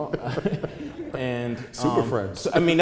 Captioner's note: laughter